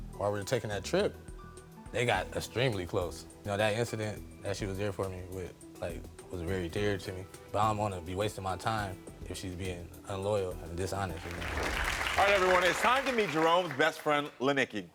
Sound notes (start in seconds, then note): 11.1 audience clapping